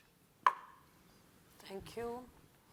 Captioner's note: cup thuds